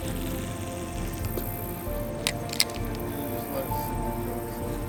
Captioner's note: device plopping